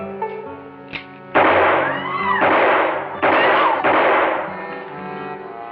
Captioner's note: gunshots and screaming